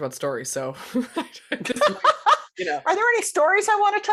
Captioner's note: laughing